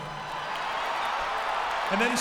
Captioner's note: audience cheers